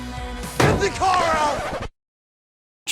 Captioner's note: slams